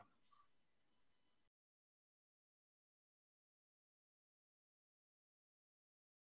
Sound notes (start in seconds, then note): 2.9 silence